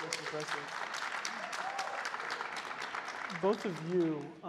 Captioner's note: crowd applauding